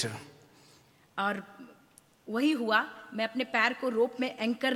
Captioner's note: speaks foreign language